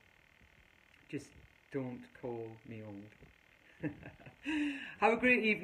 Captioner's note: laughs